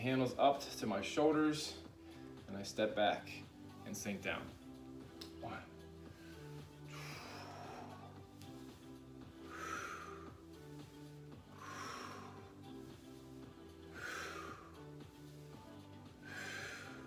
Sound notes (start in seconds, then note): 7.0 breaths heavily; 7.0 upbeat music; 12.0 breaths heavily; 12.0 upbeat music